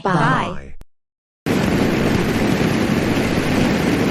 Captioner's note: rocket whooshes